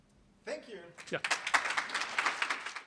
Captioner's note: applause